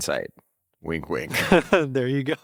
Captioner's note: laughs